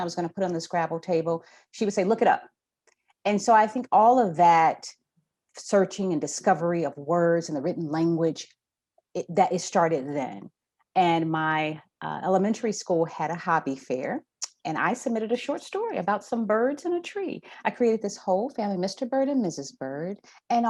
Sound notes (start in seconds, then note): none